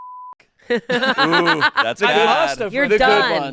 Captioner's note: beep; laughing